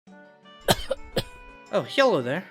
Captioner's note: cough sfx